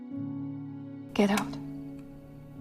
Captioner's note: voiceover